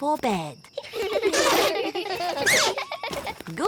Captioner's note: all giggling